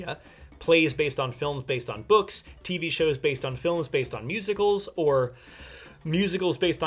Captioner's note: deep breath